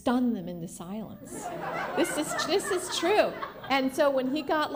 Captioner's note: laughter